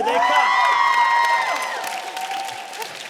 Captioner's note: audience cheers